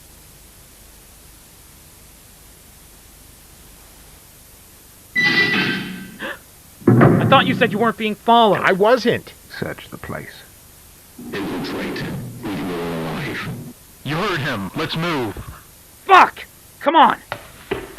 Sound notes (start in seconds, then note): 5.2 back Door Opening; 6.2 gasp; 6.8 back Door Closing